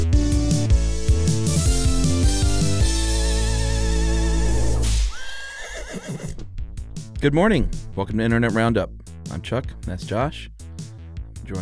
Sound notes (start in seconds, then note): 4.8 whip cracks; 5.1 horse whinnies